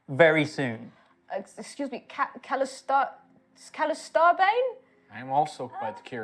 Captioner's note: falteringly